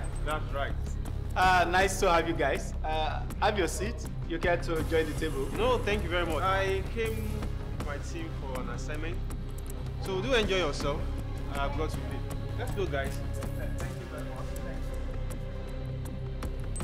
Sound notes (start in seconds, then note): none